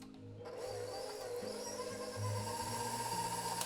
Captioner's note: whirring